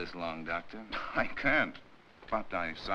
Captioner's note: scoffs